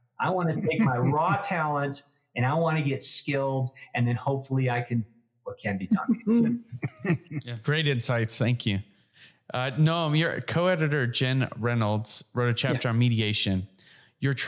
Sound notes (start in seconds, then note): 6.1 laugh